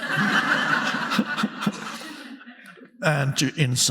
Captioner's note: audience laughing